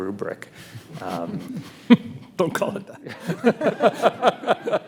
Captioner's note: laughs; panelists laugh